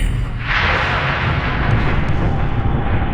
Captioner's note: thunder cracks